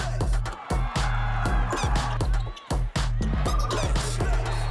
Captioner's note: crowd cheering